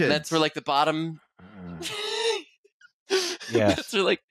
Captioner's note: groans quietly; laughs